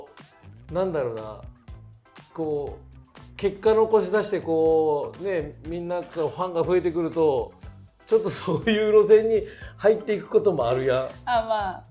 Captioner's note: laughs